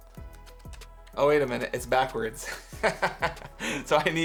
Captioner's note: laughs